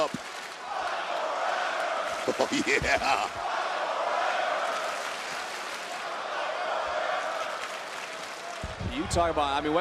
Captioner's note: crowd cheers